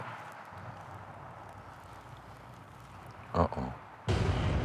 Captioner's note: traffic whirring; tense music